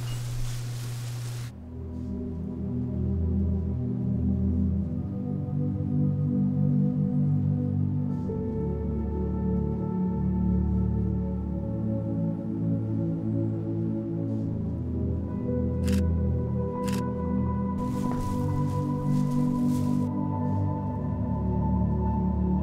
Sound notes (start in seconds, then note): 0.0 plastic crinkling; 2.0 gentle music; 15.8 camera clicking; 19.1 gentle music continues